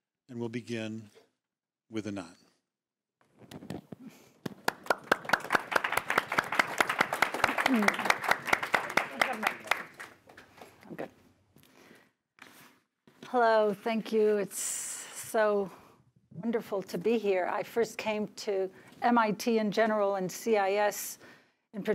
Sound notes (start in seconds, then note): 4.4 applause